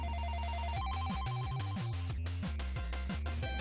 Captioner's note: game sounds play